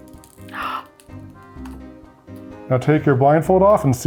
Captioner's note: gasping